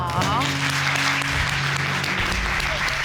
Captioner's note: audience exclaiming